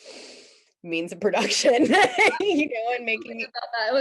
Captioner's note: both laughing